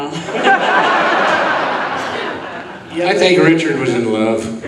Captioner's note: audience laughing